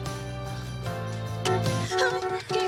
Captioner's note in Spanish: Suena el cláxon